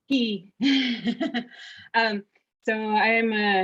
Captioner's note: laughing